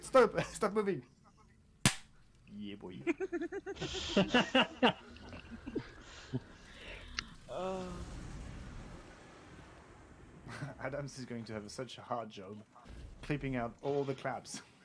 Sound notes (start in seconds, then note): 2.9 laughter